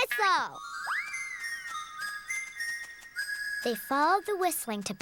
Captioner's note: whistling